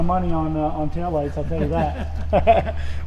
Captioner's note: chuckles